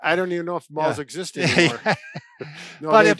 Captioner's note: laughs